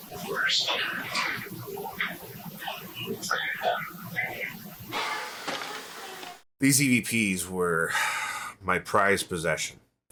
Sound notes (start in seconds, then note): 0.1 eerie voice